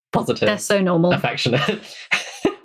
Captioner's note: laughing